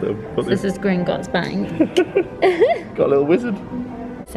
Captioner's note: laughs